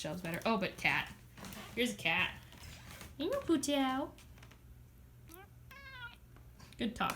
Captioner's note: cat meows